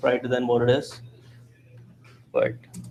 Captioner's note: background chatter